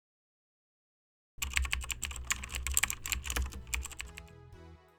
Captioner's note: keyboard typing